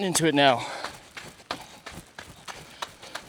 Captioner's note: footsteps